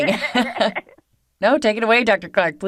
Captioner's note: laughing